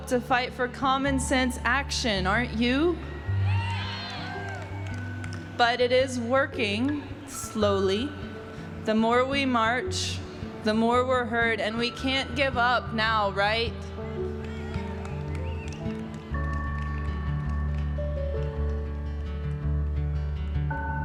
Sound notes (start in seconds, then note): 2.9 crowd cheers; 14.1 crowd cheers